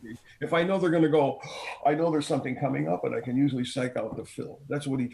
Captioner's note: takes a deep breath